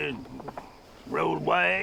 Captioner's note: chuckles